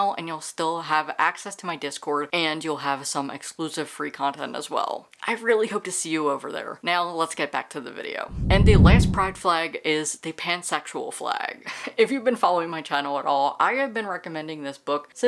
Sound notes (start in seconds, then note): 8.3 whoosh